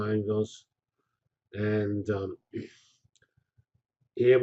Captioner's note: pause